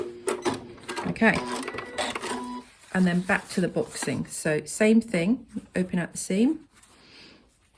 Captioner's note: sewing machine noise